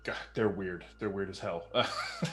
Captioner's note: laughs uncomfortably